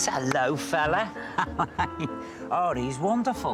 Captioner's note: laughs